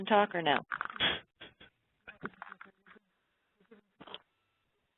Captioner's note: laughs